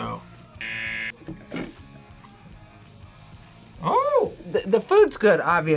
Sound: buzzer

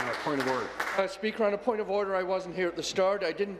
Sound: applause

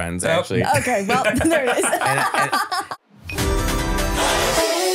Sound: laughing; upbeat music

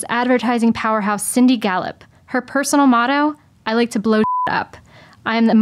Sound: beep

